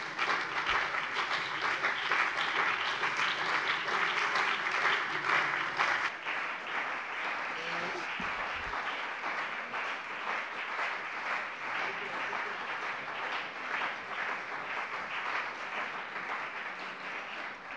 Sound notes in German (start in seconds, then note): 8.1 Anhaltender Beifall CDU und BÜNDNIS 90/DIE GRÜNEN